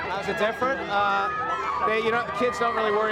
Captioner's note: people screaming